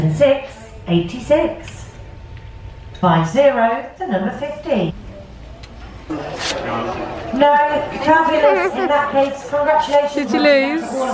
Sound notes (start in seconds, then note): 4.8 people chattering; 6.1 paper ripping